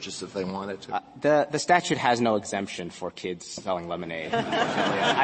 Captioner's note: laughter